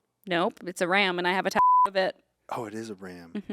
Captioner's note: beep